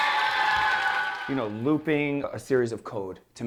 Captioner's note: cheers and applause